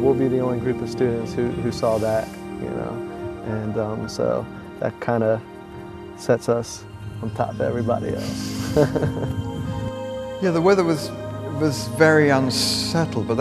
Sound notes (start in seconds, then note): 8.5 laughter